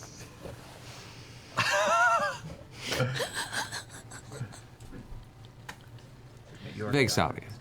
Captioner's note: laugh